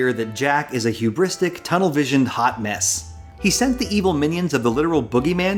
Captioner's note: none